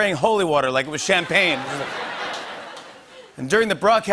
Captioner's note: laughter